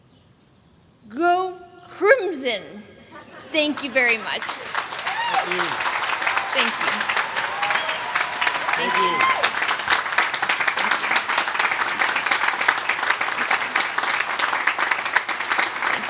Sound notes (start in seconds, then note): 3.5 applause